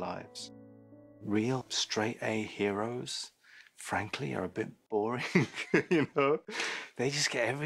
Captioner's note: laughs